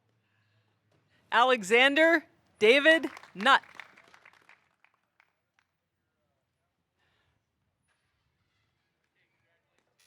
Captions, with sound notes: Alexander David Nutt. (audience applauding)